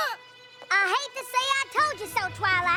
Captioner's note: both gasp; high-pitched voice